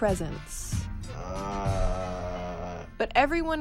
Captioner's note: Magnet groans in confusion